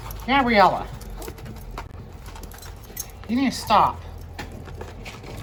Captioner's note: Ella whimpers